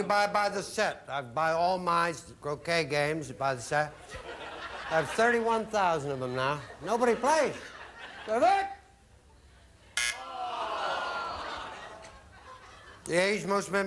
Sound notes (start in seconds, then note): 3.9 audience laughing